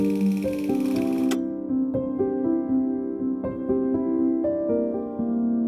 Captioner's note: light thoughtful music; film projector clunks